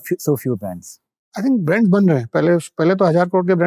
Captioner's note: speaking in Hindi